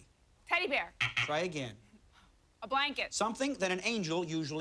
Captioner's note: buzzer